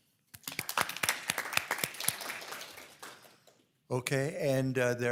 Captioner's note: people applauding